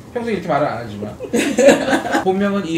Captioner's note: simply laughs